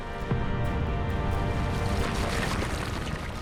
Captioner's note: lava exploding